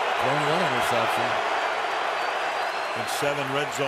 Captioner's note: muffled chatter